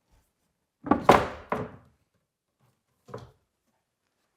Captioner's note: sill thudding